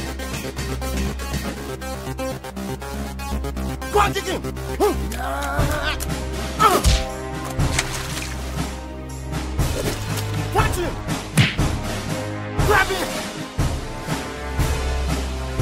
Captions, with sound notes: - Go and kick him. (henchman grunting) (kick thuds) (water splashes) Punch him. (punch thuds) Grab him.